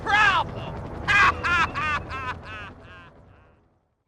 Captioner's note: laughing